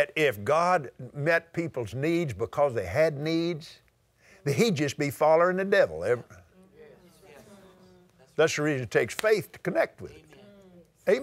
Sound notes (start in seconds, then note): 7.2 audience Agrees